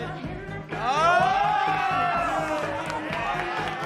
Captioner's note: semua bersorak